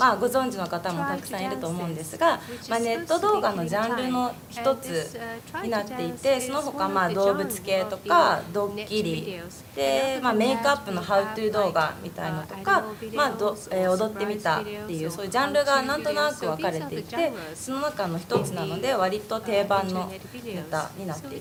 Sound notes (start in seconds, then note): 7.1 japanese